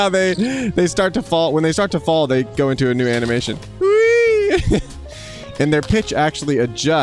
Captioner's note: laughs; laughs